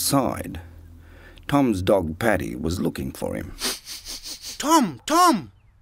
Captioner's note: dog sniffing